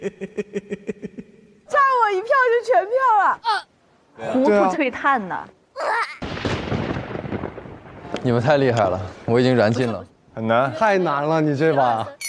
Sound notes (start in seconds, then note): 5.9 stumbling